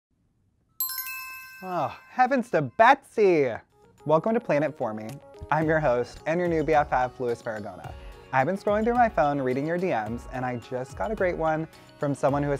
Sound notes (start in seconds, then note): 0.8 text alert